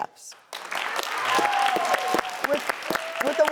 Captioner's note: crowd Applauds